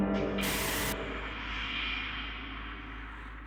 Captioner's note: high-pitched, distorted sound fades out